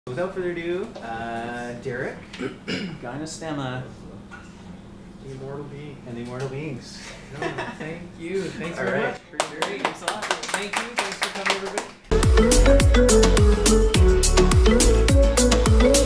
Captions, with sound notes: - Without further ado, Derek, Gynostemma... - The immortal beings. - And the immortal beings (laughs). - Thank you, thanks very much, appreciate it, thanks a lot. Thank you, thanks for coming, everybody. (bright electronic music)